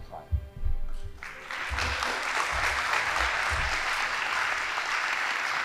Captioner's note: audience applauding